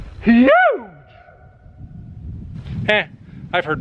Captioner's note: echoes